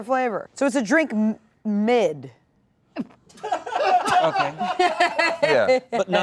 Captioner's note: laughter